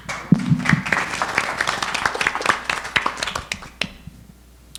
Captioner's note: audience applauding